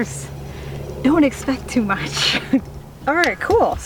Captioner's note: laughing